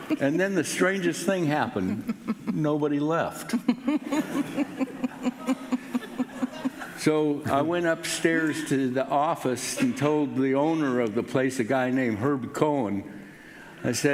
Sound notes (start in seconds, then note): 3.5 laughing